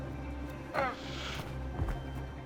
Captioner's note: squawks